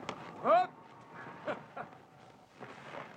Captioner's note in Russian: смеется